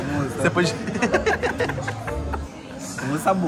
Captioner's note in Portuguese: risos